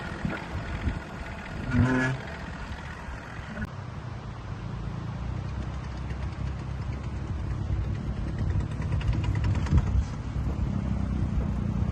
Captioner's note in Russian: Звук рёва мотора